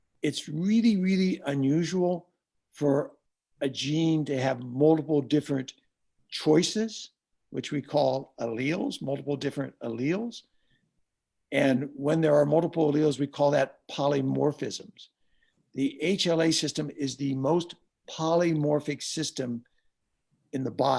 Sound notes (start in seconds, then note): none